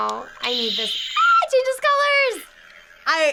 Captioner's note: squeals